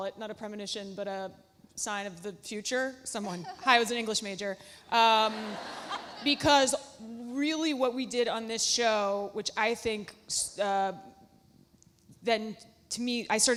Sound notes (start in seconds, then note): 3.2 Alexis laughs; 5.2 audience laughs